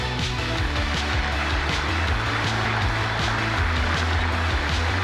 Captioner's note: applause